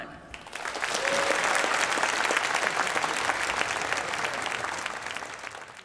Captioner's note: applause